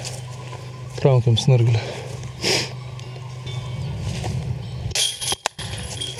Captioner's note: sniffles